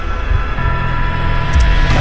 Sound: revolver cock

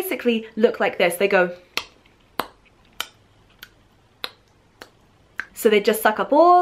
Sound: chewing Sounds

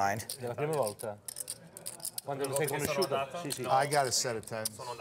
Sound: speaking in Italian

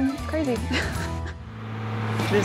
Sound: laughs

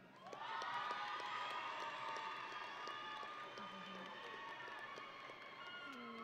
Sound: audience and graduates cheering

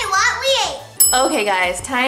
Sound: bell dings

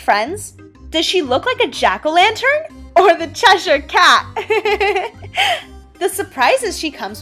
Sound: laughs

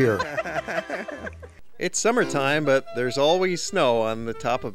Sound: laughter

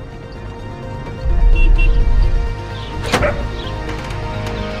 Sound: honking

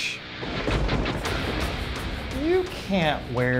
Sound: rock music; thunder cracks

